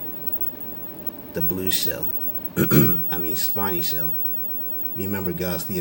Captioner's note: ahem